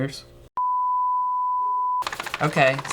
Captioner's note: high pitched beeping